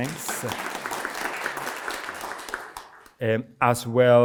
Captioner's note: audience clapping